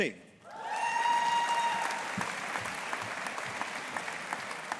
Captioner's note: audience applauding